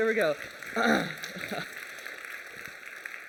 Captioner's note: applause